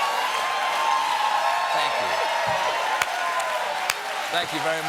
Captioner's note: cheers and applause